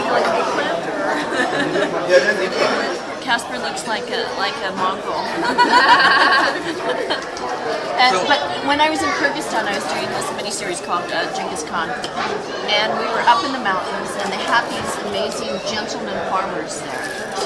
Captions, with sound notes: - Casper looks like a mongrel. (all laughing) But, when I was in Kyrgyzstan, I was dong this mini-series called "Ghengis Khan" and we were up in the mountains and they have these amazing gentleman farmers there.